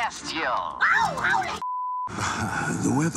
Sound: beep

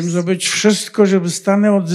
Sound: foreign language

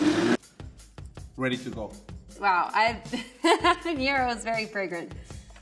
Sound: laughing

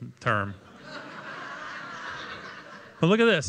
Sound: laughter

